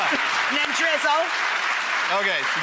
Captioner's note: clapping